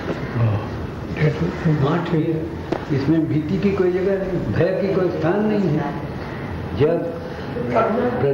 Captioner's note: discussion in Hindi